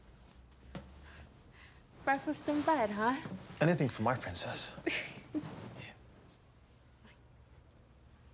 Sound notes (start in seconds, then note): 5.0 laughing